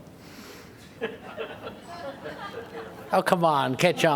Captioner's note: laughter